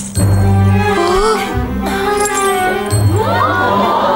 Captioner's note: gasps; crowd